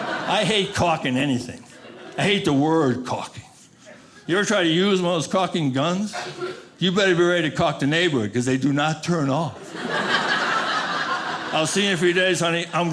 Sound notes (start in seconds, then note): 0.0 audience laughing; 9.6 audience laughing